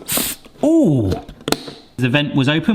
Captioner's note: box lid hisses